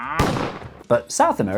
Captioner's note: bang!